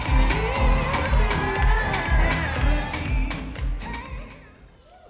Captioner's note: audience cheering